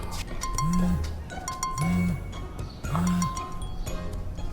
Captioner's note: upbeat music; phone vibrating; upbeat music